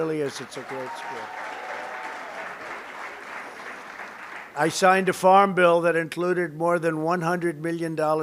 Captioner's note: applause